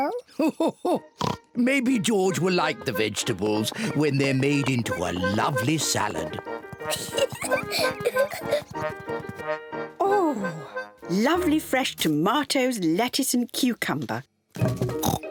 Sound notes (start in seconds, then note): 2.0 laughs; 6.8 peppa pig laughs